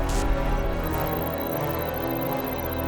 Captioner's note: trilling